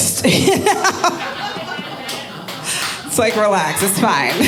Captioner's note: audience laughing